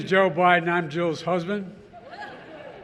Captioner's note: laughter